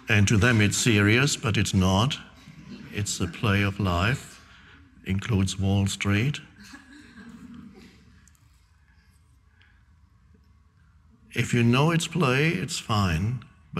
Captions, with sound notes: And to them it's serious, but it's not. It's a play of life, includes Wall Street. (audience laughing) If you know it's play, it's fine,